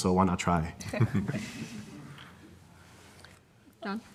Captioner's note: audience laughing